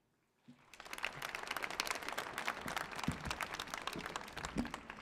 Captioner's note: audience applauding